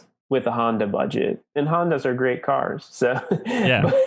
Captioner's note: laughs